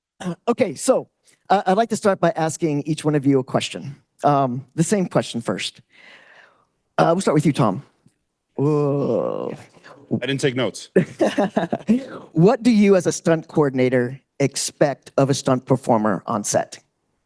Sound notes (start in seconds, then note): 11.0 laughing